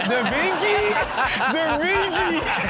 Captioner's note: audience laughs